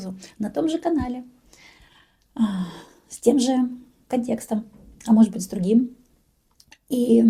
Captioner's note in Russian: вздыхает